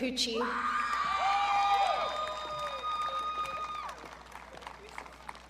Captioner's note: audience cheering